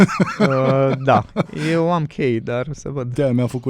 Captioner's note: laughter